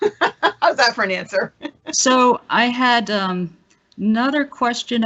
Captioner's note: laughing